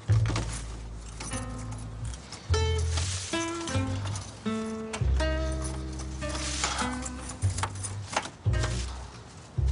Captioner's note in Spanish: Ruido al abrir